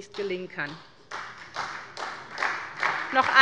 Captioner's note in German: Beifall bei der SPD